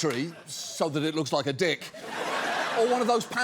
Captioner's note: audience laughs